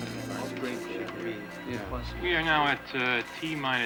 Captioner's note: chattering